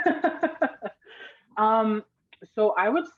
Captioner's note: laughing